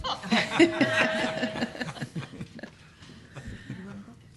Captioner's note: laughter